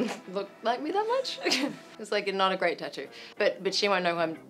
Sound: laughs

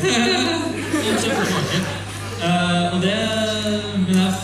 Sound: nervous laughter

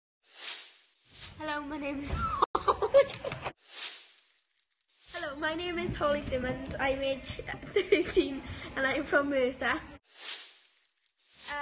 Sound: laughs

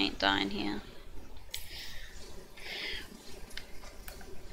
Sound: loud inhale and exhale

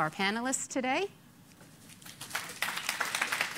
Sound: applause

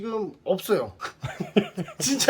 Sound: laughs

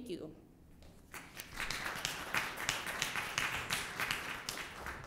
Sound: applause

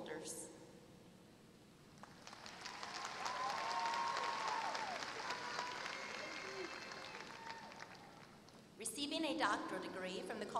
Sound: applause

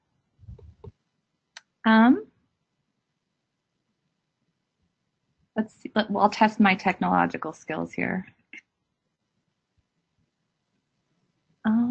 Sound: pause

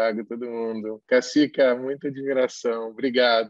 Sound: foreign language; laughs

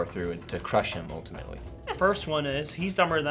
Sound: laughing

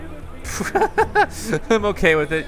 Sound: laughs

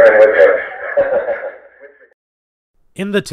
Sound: laughs

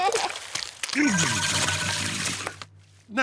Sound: vocalizing

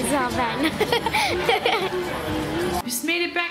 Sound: giggles

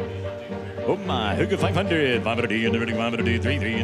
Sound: auctioneer calling

